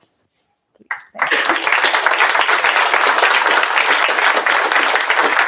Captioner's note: applause